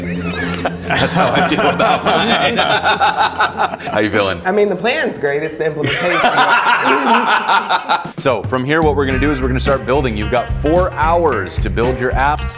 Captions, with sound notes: (laughing) That's how I feel about my app. How are you feeling? I mean, the plan's great, it's the implementation. (laughing) So from here, what we're gonna do is we're gonna start building. You've got four hours to build your apps,